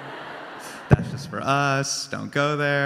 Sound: crowd laughs

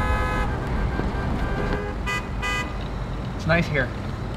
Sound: car horns honking

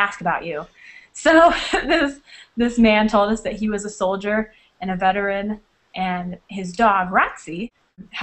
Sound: chuckle

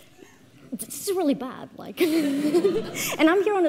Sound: all laughing

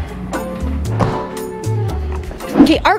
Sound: door shuts

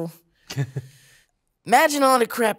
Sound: chuckling

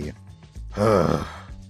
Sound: sigh

